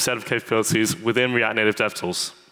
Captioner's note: none